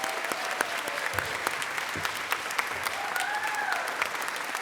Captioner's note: applause